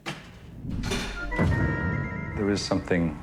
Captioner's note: game losing sound